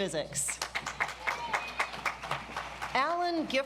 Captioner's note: audience applauds